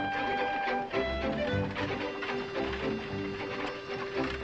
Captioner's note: horse buggy approaching